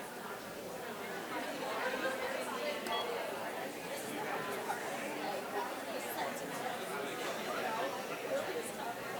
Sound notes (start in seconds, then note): 3.8 people quietly speaking